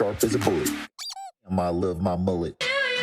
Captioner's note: toy squeaking